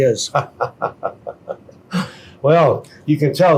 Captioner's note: laughing